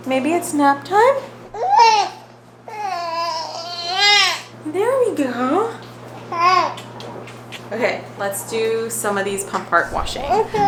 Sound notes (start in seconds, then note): 2.7 baby crying